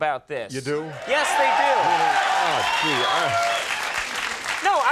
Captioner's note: crowd applause